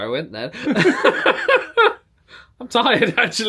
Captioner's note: both laugh